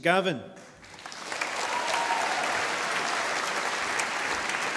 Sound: audience applauding

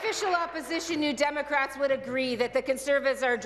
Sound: applause

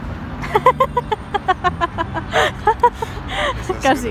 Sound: laughing

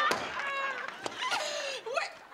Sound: quietly coughing

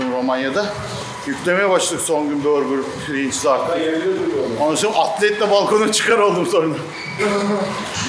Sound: laughs

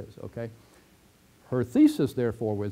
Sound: pause

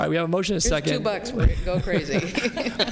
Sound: laughter

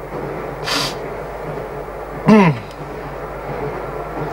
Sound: sniffs and clears throat

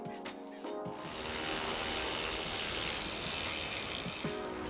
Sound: bright upbeat music; driller grinding; bright upbeat music

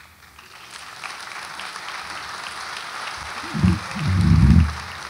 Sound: audience applauds

